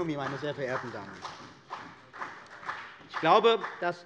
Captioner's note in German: Beifall bei der CDU und dem BÜNDNIS 90/DIE GRÜNEN